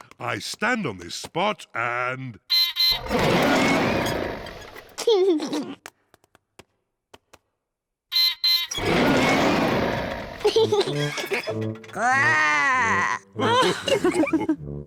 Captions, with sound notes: I stand on this spot and... (BEEPS AND ROARS) (LAUGHS) (BEEPS AND ROARS) (LAUGHS) (GROWLS) (ALL LAUGH)